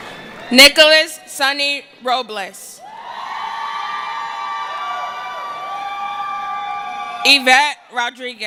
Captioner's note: cheering